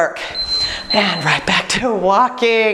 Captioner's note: beeping